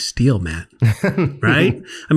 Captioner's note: laughs